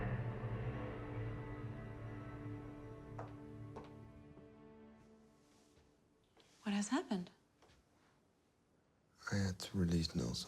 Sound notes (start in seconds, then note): 3.1 heels clack